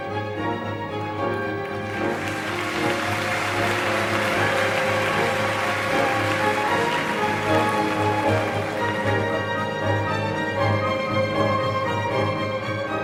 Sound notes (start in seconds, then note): 1.5 clapclapclapclapclap